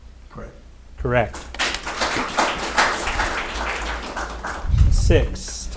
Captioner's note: audience applauding